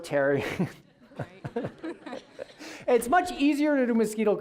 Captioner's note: all laughing